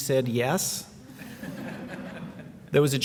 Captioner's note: laughing